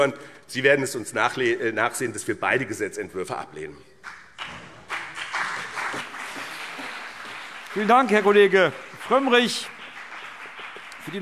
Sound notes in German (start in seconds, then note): 4.0 Beifall BÜNDNIS 90/DIE GRÜNEN